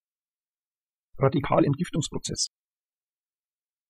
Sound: fast Pronunciation

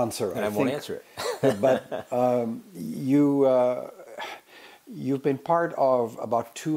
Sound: laugh

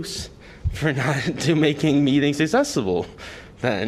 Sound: laughter

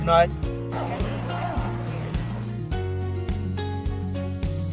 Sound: zip rasping

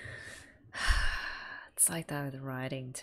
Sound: sighs

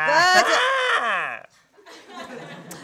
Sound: mocks

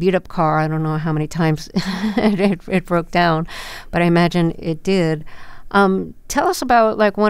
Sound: laughter

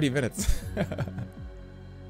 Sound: laughs

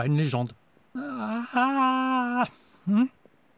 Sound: yawns

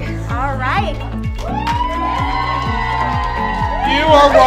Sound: cheers and applause

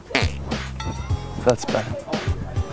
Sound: fart noise

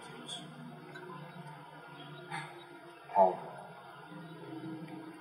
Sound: sigh

